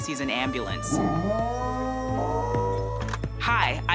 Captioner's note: dog howling